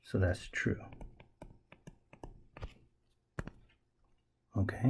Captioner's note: tapping Sounds